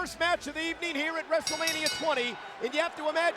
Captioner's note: bell ringing